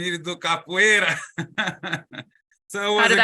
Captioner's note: laughs